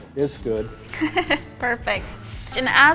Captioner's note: laughs softly